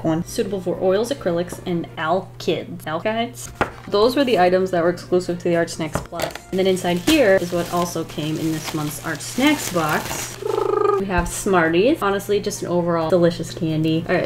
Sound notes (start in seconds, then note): 10.3 Chewbacca sound "arrrrrr"